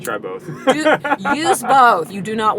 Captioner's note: laughter